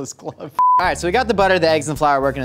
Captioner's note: beep